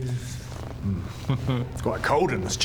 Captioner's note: smugish laugh